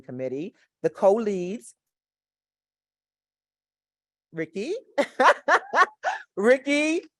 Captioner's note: laughs